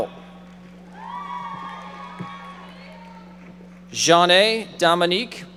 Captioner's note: audience members shouting